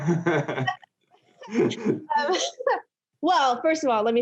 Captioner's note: both laughing